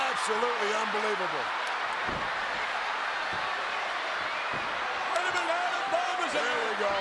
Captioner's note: applause